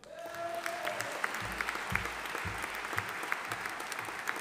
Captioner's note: audience applauding